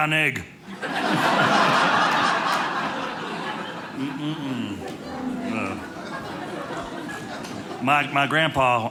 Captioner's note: audience laughing